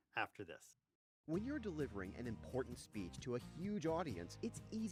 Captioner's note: voice-over